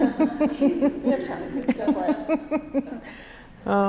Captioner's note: laughs